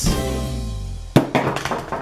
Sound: thud

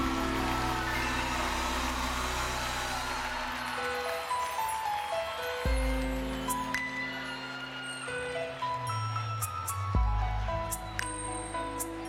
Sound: applause

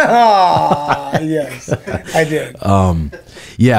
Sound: laughs

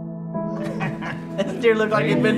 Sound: laughing

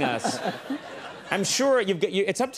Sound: crowd laughing

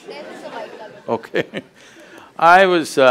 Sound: laughs

